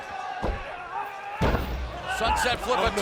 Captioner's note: wrestlers grunting